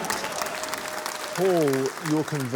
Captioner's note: cheering, applause